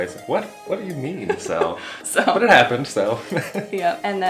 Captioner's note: laughs